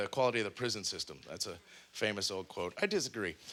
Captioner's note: none